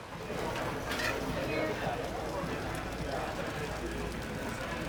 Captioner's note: restaurant chatter